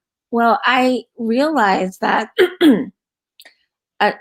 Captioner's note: clears throat